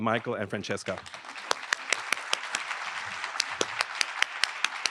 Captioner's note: audience applauds